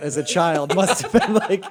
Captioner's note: laughter